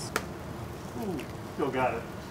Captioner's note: egg cracks